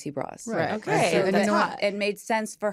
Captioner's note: all agreeing